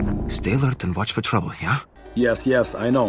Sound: nervously

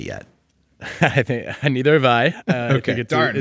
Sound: laughing

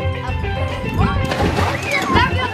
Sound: splash

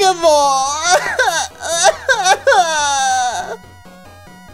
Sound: baby crying sounds

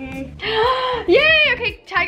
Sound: inhales sharply

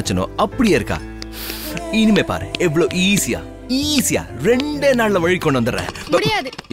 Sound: snaps finger

